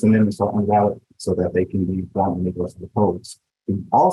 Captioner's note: speaking faintly